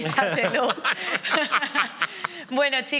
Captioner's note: they all laugh